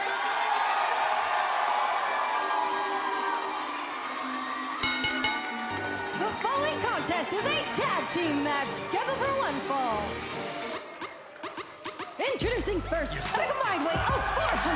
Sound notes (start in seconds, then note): 0.2 cheers & applause; 4.8 bell